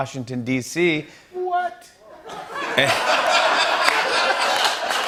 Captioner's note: laughter